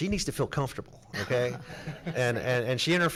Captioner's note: everyone laughs